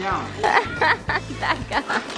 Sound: laughing

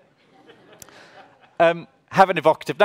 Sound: audience laughs

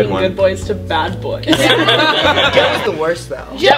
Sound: all laugh

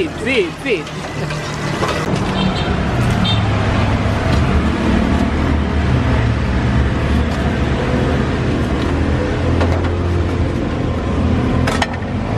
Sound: engine sound

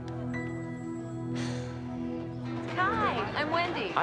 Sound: sighing

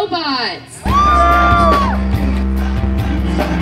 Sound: cheering

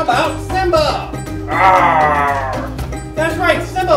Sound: roars

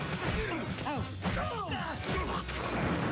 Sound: grunts

